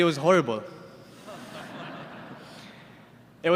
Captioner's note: laughter